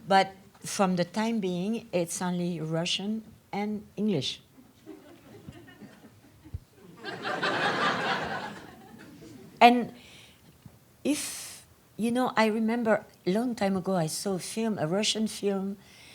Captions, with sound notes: but from the time being it's only Russian and English. (audience laughs) And if you know I remember long time ago I saw a Russian film